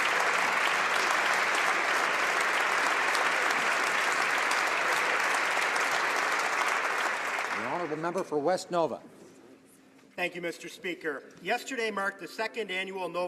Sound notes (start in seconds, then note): 3.7 applause